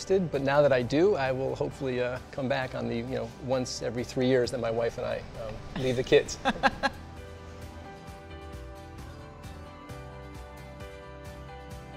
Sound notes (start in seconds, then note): 5.8 laughing; 9.1 upbeat music